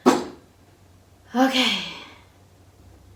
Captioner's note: breathes out